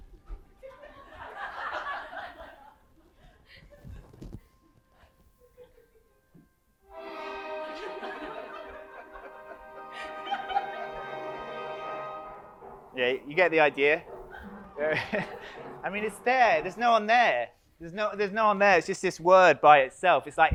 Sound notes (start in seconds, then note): 0.7 audience laughs; 7.0 audience laughs; 7.2 dramatic music; 10.5 dramatic music continues